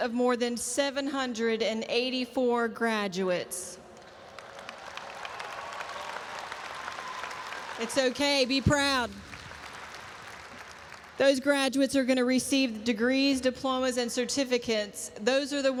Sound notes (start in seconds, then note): 4.0 audience applauds and cheers